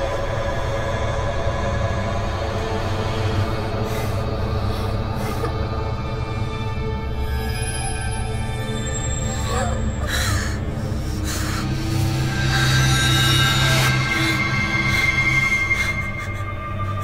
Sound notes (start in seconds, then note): 5.1 whimpering